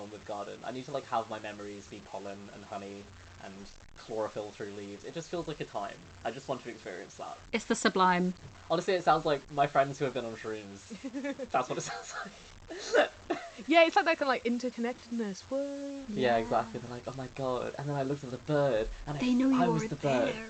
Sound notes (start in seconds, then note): 10.9 laughs